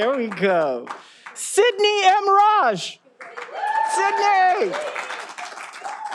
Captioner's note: all applauding